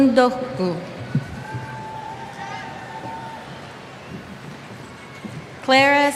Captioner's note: cheers